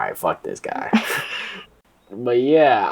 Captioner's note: laughter